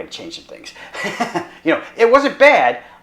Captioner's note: doctor laughs